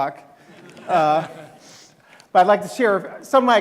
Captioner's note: audience laughing